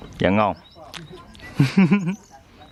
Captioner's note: laughing